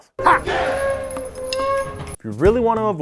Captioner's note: ninja cry